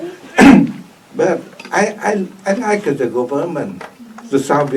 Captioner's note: coughs